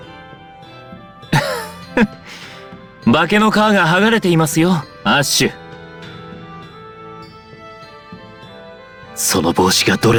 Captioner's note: laugh